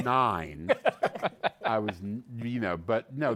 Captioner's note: laughter